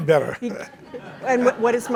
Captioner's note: chuckling